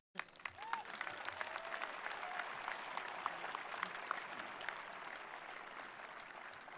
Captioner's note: attendees applauding; attendees cheering